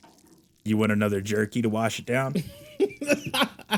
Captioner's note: more cast laughter